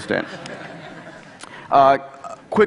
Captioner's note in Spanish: Risas